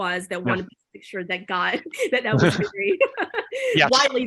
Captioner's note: laughing